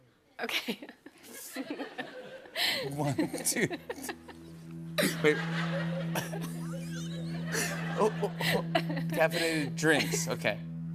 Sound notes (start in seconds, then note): 0.5 laughter; 9.8 laughter continues